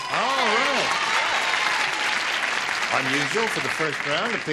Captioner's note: applause